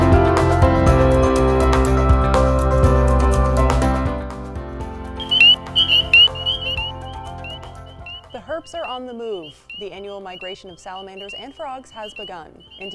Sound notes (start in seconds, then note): 5.2 frogs croaking